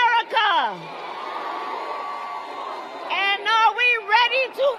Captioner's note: applause